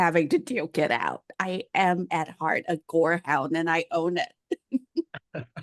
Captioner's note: laughs